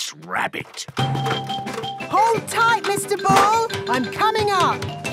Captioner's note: none